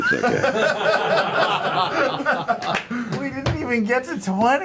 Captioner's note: laughter